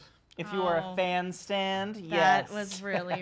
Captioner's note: laughs